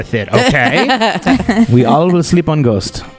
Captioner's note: laugh